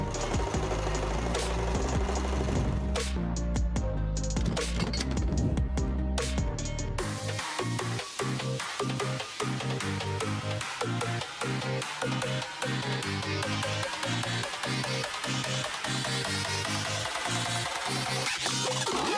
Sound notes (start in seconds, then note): 0.0 sewing machine whirring; 4.4 metal clinking